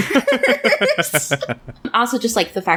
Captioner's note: laughs